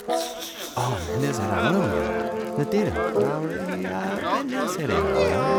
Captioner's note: crowd speaking gibberish; laughs quietly